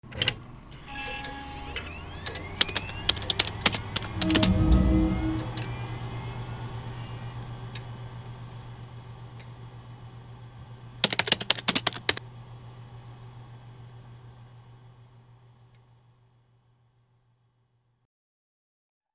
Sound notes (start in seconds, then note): 0.8 computer starting up; 2.4 keyboard clacking; 3.6 ethereal chime; 11.0 keyboard clacking